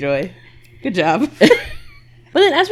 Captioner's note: laughs